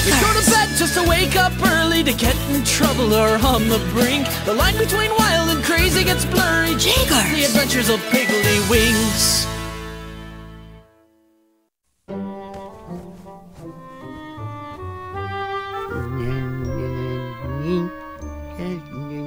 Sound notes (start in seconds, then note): 12.1 soothing music; 15.6 humming